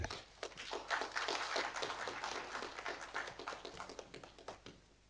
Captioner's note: audience applauding